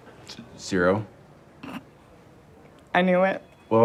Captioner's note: stifled laugh